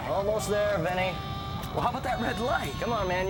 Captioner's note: distant screaming